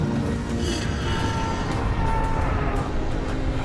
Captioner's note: yelling